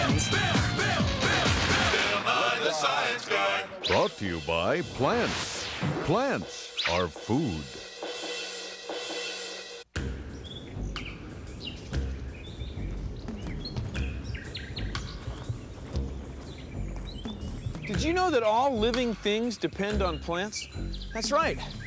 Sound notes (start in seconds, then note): 10.0 birds chirping